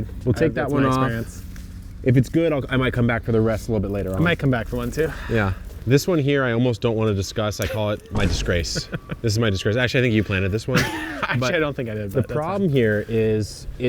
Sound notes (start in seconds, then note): 8.1 audio whooshing; 8.4 laughs; 10.6 laughs